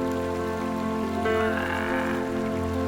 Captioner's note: braying